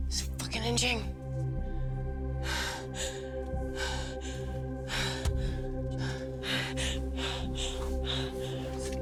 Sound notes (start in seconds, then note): 3.4 Gina panting